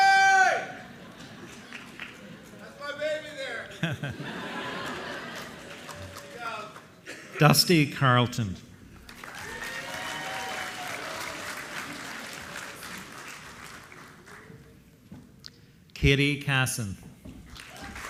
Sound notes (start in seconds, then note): 9.0 applause